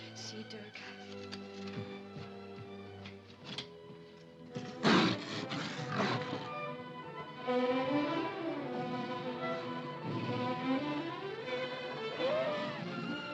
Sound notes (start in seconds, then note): 4.5 panther and leopard snarling; 7.4 dramatic music; 11.6 animal noises; 12.9 dramatic music